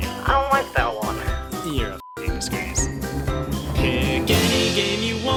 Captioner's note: beep